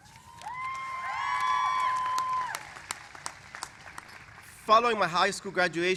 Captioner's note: cheers and applause